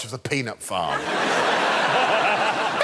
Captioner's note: laughter